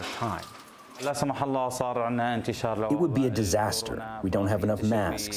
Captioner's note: through translator